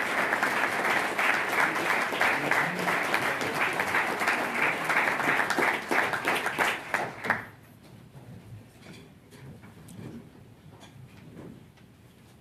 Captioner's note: applause